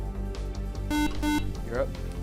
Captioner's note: buzzer